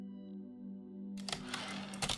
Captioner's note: typewriter return side